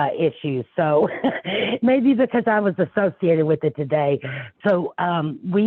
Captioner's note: laughs